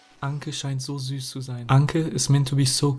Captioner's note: man speaking foreign language